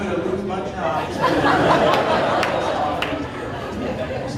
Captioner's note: audience laughing